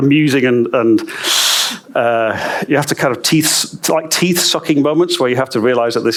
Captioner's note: sucking teeth